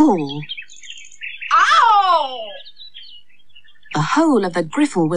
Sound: Griffle Cries Out In Pain

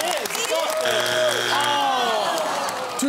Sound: buzzer sounds

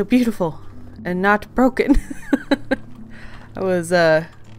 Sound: laughs

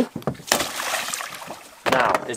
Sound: water Splashing

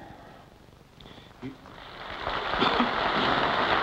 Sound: applause

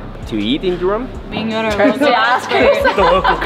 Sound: group chattering

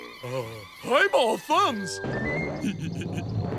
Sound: laughing

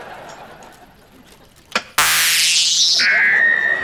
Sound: alarm ringing

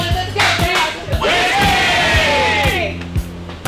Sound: crowd

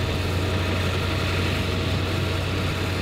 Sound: truck passing

